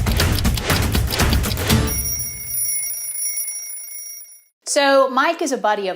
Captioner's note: intense music playing; alarm clock ringing